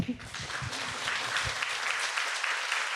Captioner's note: clapping